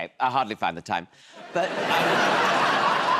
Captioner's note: laughter